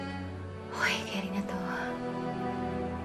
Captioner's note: sighing